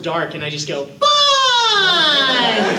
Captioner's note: high-pitched voice